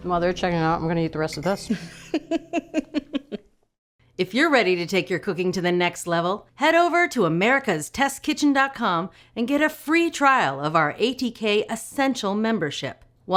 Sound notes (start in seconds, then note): 1.7 laughs